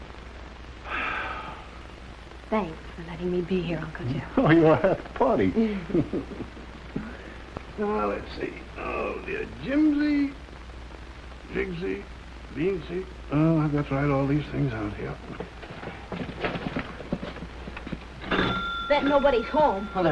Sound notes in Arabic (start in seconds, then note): 16.7 جرس الباب